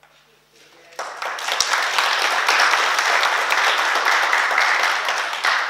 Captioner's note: oklaski